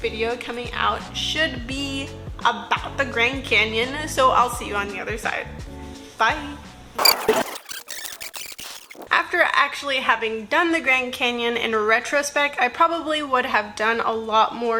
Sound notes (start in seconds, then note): 7.0 tape fast-forwarding